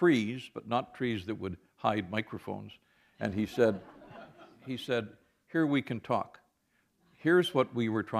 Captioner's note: laughter